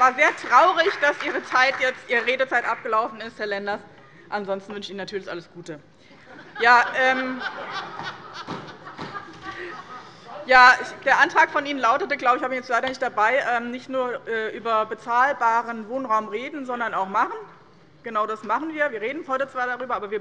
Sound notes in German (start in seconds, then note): 6.4 Heiterkeit und Beifall bei dem BÜNDNIS 90/DIE GRÜNEN